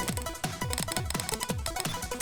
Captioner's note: angry spanish typing